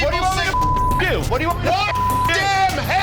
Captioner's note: beep